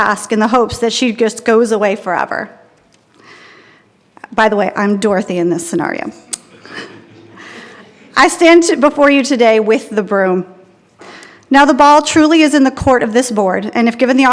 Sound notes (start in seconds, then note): 6.5 attendees laughing